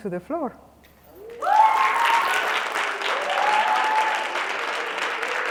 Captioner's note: cheers and applause